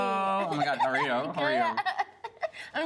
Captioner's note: laughs